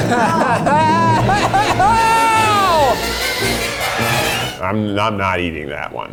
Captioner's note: dramatic music; yelling